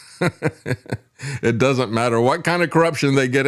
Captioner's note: laughs